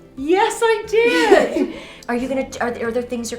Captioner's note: laughing